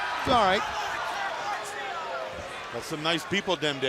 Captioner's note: crowd chatter